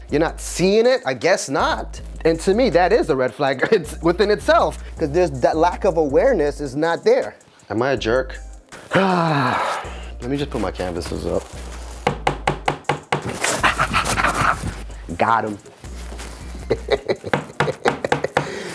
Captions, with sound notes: You're not seeing it? I guess not. And to me that is a red flag within itself. That there's that lack of awareness is not there. Am I a jerk? (sighs) Let me just put my canvases up. (hammer bangs) Ah ah ah! Got 'em. (chuckles)